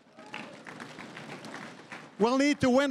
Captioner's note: crowd applauding